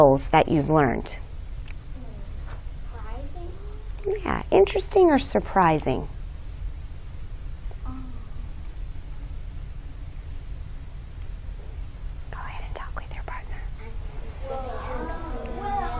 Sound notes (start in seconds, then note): 8.2 whispering